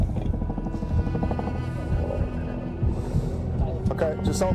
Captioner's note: suspenseful music; faint sound of heartbeat